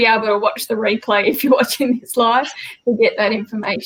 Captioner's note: laughs